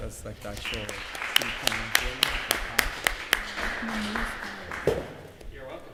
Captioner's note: applause